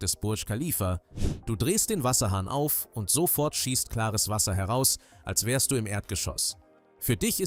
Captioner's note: sniff